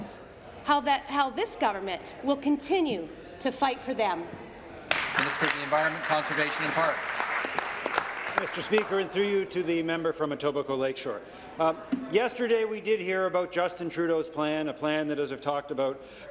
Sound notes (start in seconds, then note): 7.1 applause